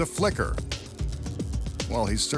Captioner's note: electricity buzzing